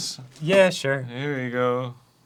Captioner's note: unenthusiastically